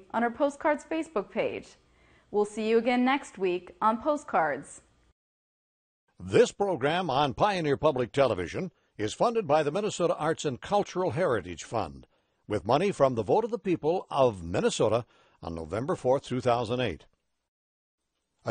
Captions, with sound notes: on our Postcards Facebook page. We'll see you again next week on Postcards. - [Voiceover] This program on Pioneer Public Television is funded by the Minnesota Arts and Cultural Heritage Fund, with money from the vote of the people of Minnesota on November 4th, 2008.